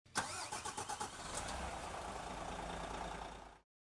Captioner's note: ignition turning on